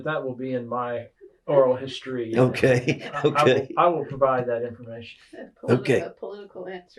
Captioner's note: laughter